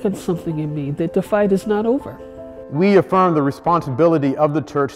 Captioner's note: preaching